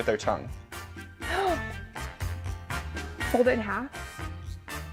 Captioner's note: gasps; upbeat music